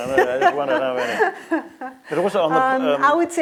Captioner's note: laughs